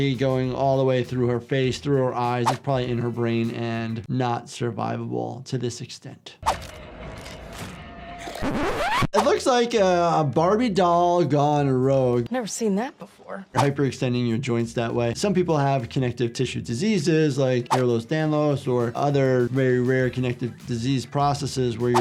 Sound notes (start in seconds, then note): 8.4 tape squealing